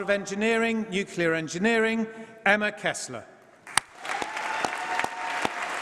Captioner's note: applause